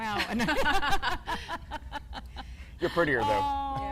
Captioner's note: laughs